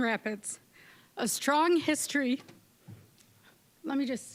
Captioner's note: voice wavering